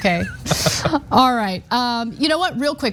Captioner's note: laugh